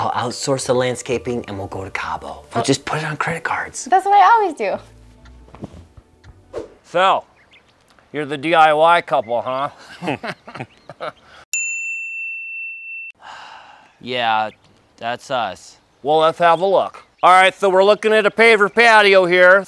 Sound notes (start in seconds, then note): 9.6 laughs; 11.5 bell dinging; 13.2 sighs